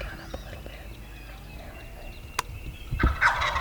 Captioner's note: whispering